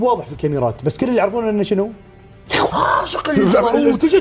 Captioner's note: slurps